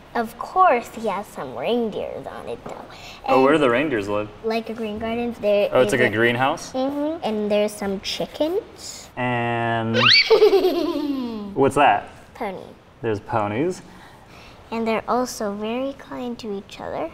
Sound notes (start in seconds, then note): 9.9 girl neighs